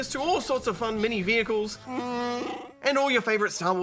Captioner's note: growls